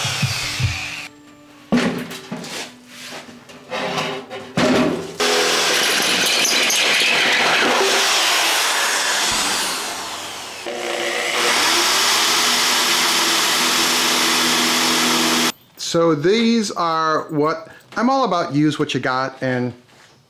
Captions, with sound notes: (metal banging) (drill grinding) So these are what, I'm all about use what you got and...